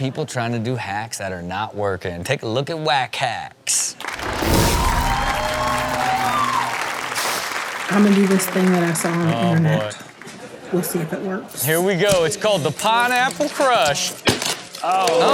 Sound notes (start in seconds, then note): 4.1 audience cheers